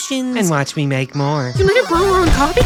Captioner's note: sound of drinking, then breaking metal